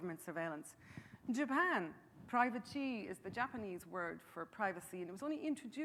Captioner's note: speaking Japanese